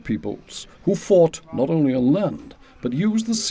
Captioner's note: men chattering